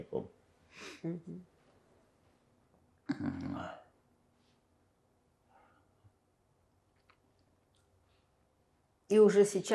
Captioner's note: pause 7 seconds